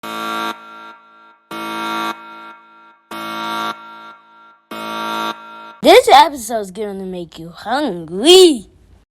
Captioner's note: alarm buzzing